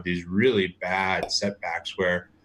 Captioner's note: popping sound